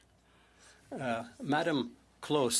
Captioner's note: speaking French